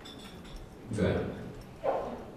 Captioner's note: computer voice